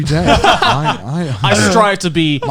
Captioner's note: Joey and Garnt laughing